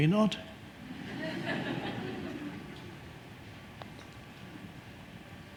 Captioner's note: audience laughing